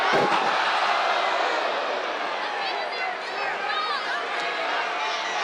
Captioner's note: crowd booing louder